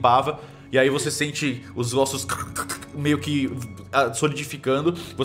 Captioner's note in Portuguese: crack crack